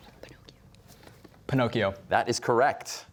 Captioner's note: whispering